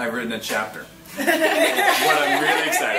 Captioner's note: group laughs